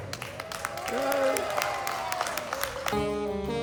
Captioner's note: applause; jazz music